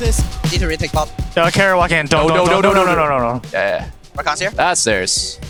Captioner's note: teammates communicating